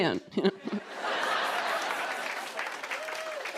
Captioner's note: laughter